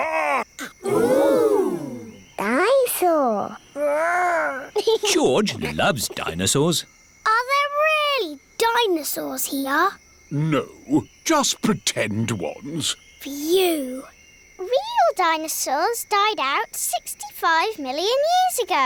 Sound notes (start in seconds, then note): 4.5 giggles